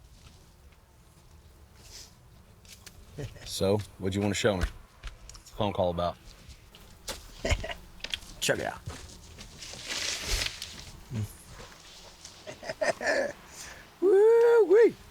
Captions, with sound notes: So, what'd you wanna show me? What's the phone call about? - (chuckles) Check it out. Whoo-whee.